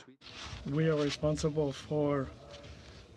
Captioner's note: speaking French